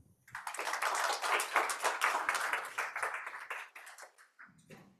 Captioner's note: audience clapping